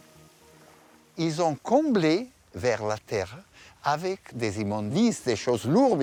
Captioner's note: speaking in foreign language